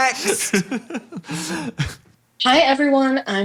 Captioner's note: laughs